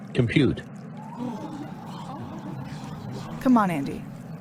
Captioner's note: crew shocked murmur